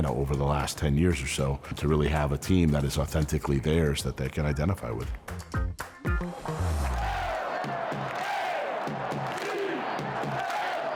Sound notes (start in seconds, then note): 6.9 crowd shouting